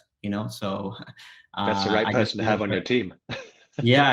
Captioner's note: laughs